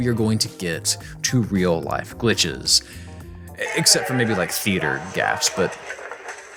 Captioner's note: snickers